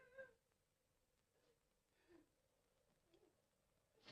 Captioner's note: woman sobbing